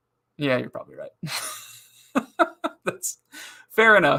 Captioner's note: laughing